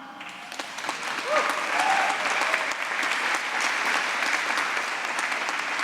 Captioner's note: applause